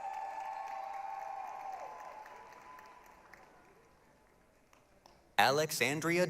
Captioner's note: applause, cheering